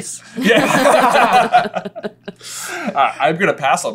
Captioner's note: laughter